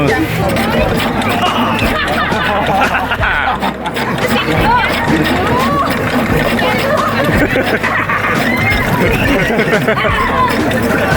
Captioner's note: everyone laughs and cries in pirate voices